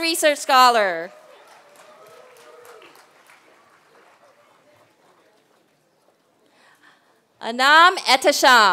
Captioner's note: applause